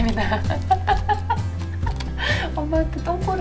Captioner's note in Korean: 웃음